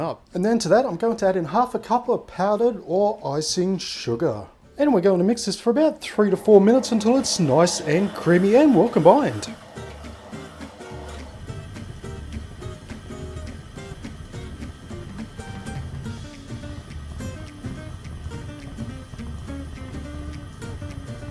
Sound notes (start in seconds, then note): 9.8 machine whirs